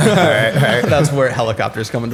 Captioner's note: chuckle